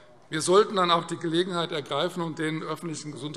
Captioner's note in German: none